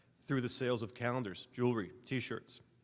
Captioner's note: none